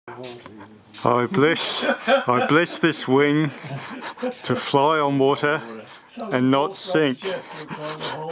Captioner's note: laughing